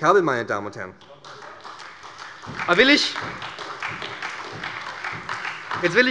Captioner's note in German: Beifall bei der SPD